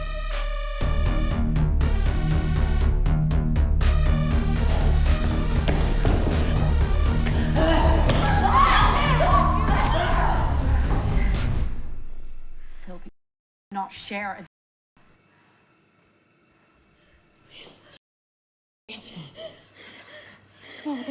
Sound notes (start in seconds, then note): 8.1 both moaning; 10.6 dramatic music